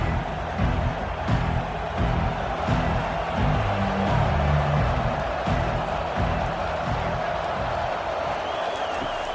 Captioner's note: cheering